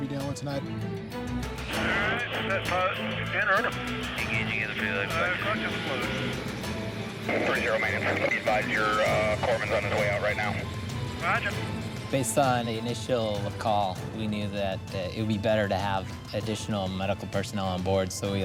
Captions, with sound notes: we're gonna be dealing with tonight. (radio chatter) - Based on the initial call, we knew that it would be better to have additional medical personnel on board.